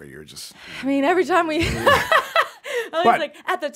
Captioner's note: laughs